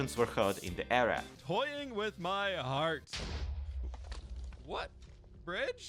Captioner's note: explosion